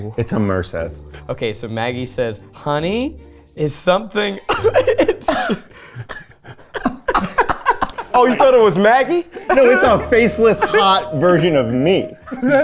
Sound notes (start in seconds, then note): 4.5 laughs; 6.3 all laughing